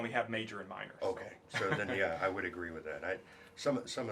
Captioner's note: laugh